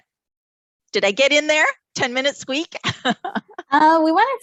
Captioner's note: laughs